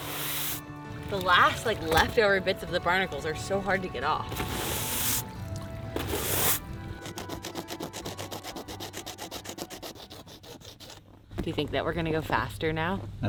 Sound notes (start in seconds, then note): 4.2 brush scrubbing; 7.1 tool scraping